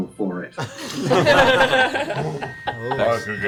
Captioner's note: all laugh